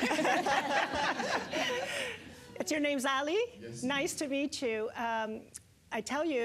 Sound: audience laughter

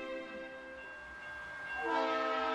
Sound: train horn

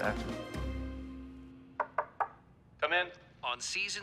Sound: knocking on door

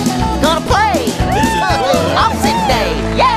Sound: all cheering

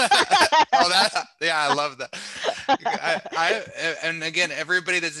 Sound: laughter

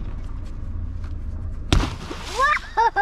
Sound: SUP board splashes

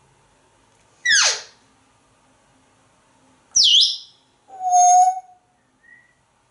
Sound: chirps and squeak sounds

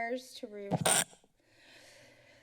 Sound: mic distortion

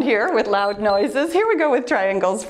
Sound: timer beeps

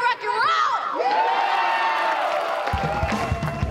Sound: <i>cheering

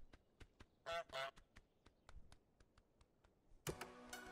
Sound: goose squawks

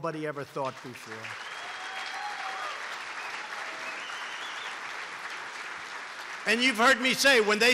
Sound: applause

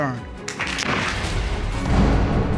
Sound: audience applauds

